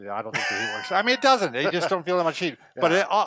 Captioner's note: laughs